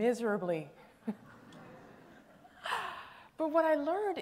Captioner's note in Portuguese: Risos